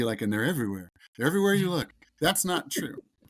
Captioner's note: host laughs